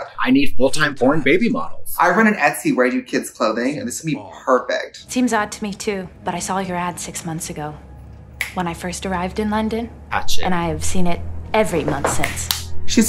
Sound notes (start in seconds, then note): 8.4 fingers snap; 12.2 fingers snap